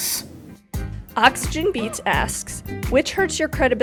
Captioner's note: voiceover